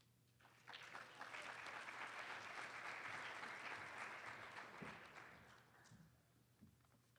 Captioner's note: applause